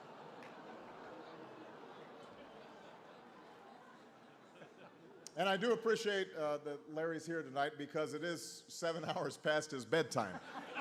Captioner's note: laughter